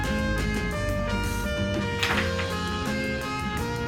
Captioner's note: pills spill